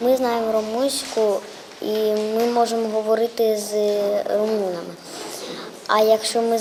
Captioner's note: <i>Ukrainian</i>